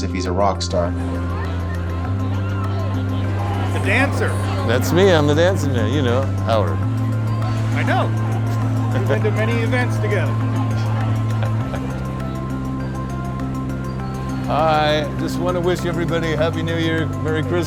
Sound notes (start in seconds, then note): 8.6 laughs; 11.5 chuckles